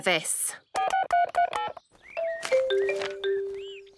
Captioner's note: phone beeping